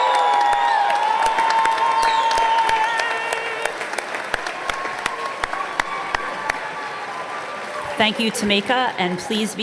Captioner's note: applause